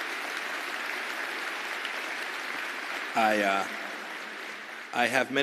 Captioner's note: applause